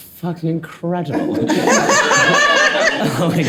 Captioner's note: all laughing